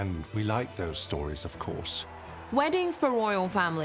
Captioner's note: crowd cheering